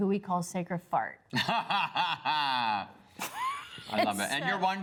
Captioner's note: laughs